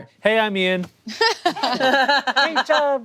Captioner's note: group laughing